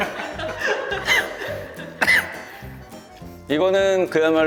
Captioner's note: cough; choking